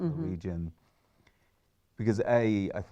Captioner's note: pause